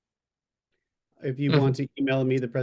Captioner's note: speaking ukrainian